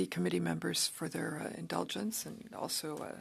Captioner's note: speaking French